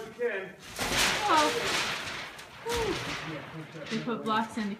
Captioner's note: window pounds into place